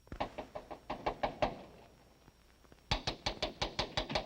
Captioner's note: knocking